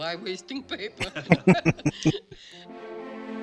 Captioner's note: laughing